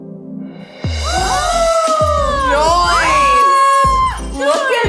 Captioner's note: girls exclaiming